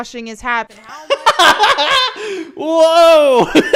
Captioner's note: laughs